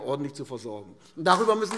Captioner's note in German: Beifall AfD